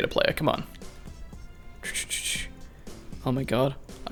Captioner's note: makes choochoo noise for no reason